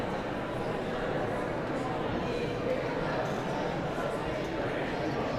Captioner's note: audience chattering continues